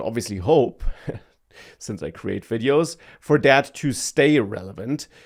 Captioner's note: laughs